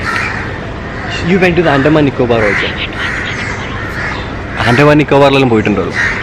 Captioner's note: whispers playfully